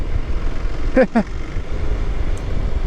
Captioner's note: laughs